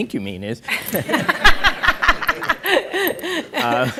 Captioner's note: laughs